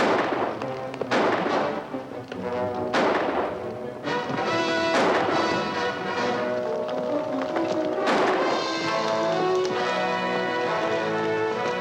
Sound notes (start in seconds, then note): 0.1 suspenseful music; 7.0 guns firing